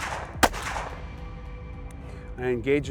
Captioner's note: gun shots